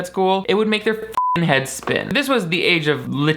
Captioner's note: beep